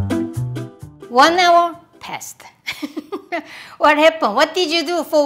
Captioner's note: laughs